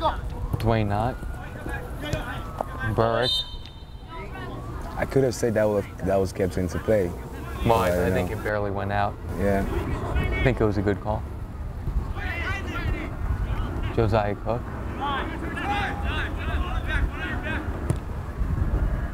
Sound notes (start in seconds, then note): 3.1 whistle blows; 15.2 players talking and yelling